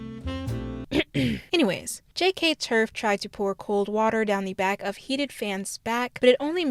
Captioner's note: ahem